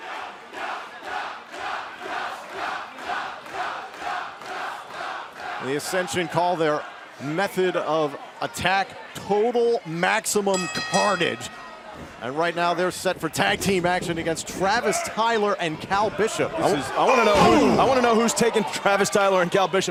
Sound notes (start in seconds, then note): 0.0 fans chanting; 10.5 bell ringing